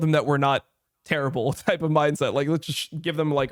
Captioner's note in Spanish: risas